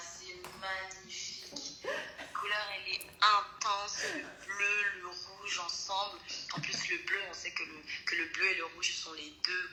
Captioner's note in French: Rire